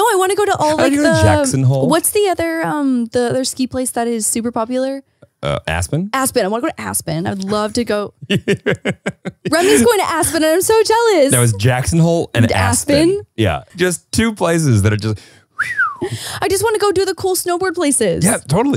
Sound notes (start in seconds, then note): 8.2 laughing; 15.5 whistles